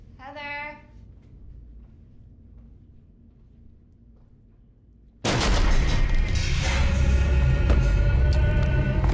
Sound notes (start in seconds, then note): 5.2 sudden ominous music; 5.4 wood cracking loudly; 7.3 muffled 1920's music; 8.5 soft intense music